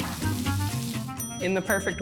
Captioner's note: bell rings